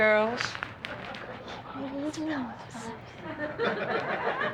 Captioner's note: quietly; audience laughter